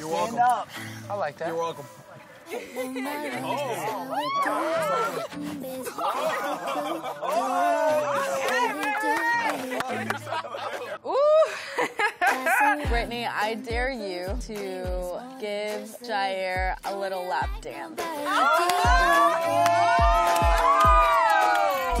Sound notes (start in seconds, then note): 4.1 cheering; 18.2 cheering